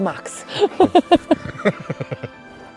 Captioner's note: laughter